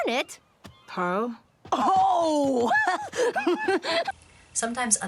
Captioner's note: laughter